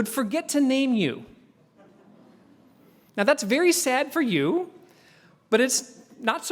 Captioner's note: laugh